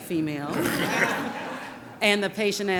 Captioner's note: audience laughing